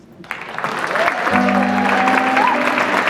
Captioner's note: audience clapping; jazz music